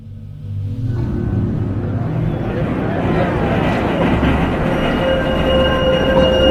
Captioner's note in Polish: street noises